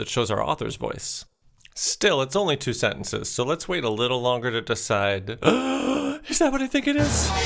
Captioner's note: gasps